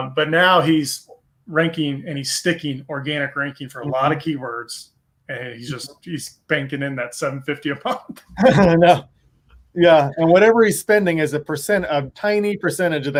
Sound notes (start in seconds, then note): 7.8 laughing